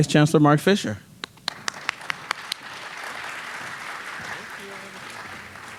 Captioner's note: audience applauding